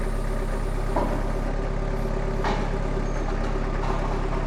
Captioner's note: slab thudding